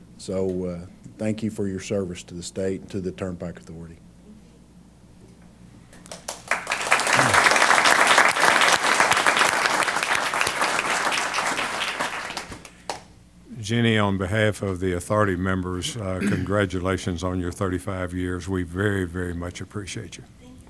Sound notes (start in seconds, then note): 6.0 applause